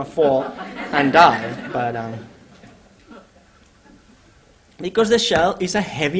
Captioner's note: laughter